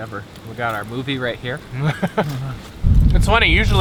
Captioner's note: laughs